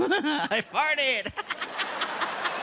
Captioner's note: laughing